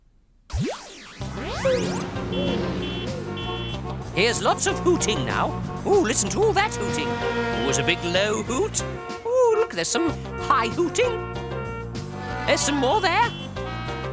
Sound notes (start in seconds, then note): 0.1 cars hooting; 0.5 soft zap; 11.2 cars hooting; 13.9 cars hooting